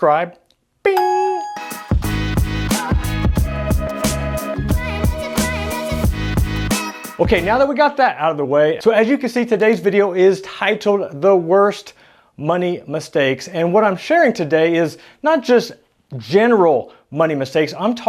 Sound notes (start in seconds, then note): 0.9 bell ringing; 2.5 upbeat hiphop music